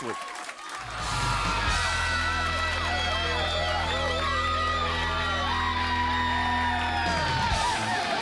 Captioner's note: crowd cheering